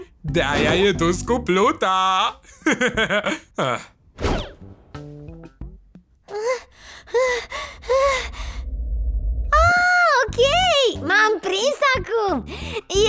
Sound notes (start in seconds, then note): 2.6 chuckles; 6.3 panting